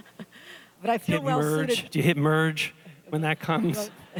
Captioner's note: chuckles